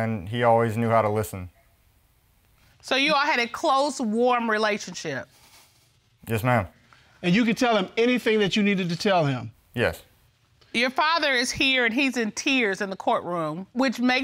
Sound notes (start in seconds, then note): none